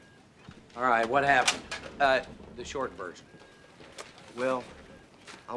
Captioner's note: clattering